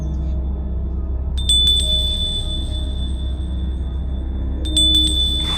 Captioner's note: bell jingling